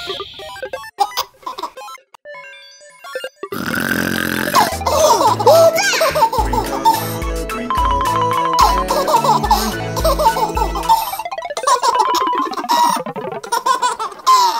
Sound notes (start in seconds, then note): 0.1 video game music; 3.5 snoring